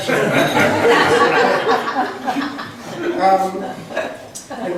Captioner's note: laughs